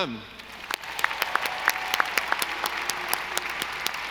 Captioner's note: audience applauding